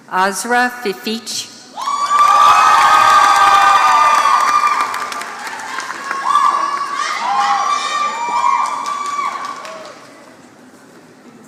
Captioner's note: applause